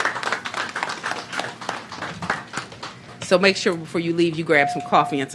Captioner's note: applause